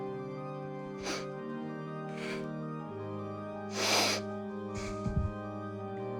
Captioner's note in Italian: Respiro pesante